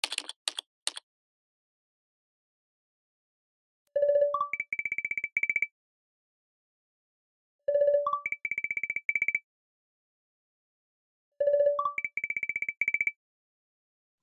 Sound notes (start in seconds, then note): 0.0 typing and video call SFX